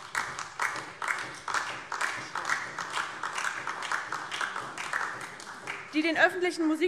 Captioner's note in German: Beifall DIE LINKE und SPD